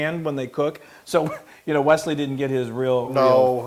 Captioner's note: laugh